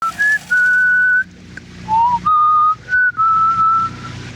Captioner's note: Brooke whistling